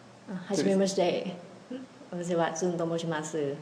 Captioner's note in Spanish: en japones